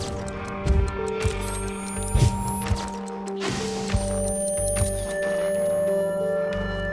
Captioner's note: camera taking pictures